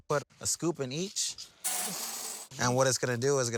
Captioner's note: beans clinking